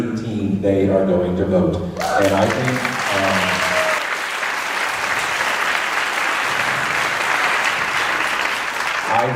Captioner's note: applause